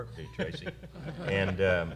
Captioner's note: laughter